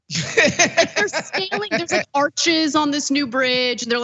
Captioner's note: laugh